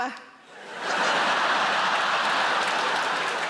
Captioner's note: audience laughing; audience applauding